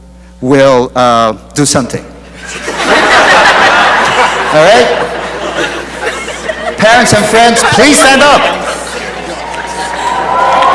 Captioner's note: laughter